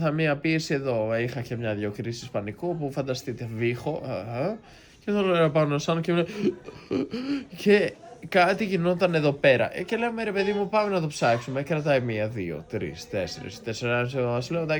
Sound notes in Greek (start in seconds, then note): 6.3 γέλια